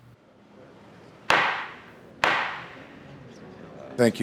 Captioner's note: gavel bangs